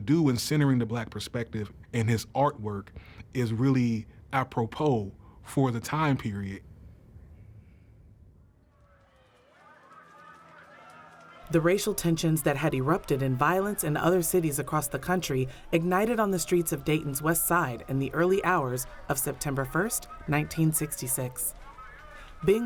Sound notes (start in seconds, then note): 9.4 fire crackling; 9.4 sirens blaring